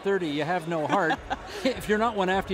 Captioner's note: laughing